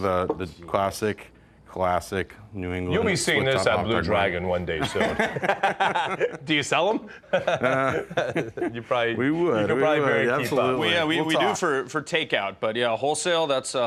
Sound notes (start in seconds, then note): 4.8 laughing